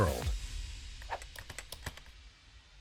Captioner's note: keyboard taps